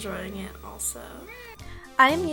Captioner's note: meow